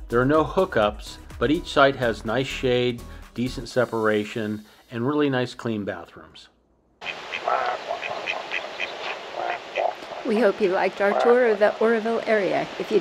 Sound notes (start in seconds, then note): 7.0 duck quacking sounds